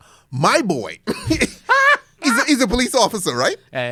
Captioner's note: laughs